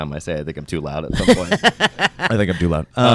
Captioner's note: laughing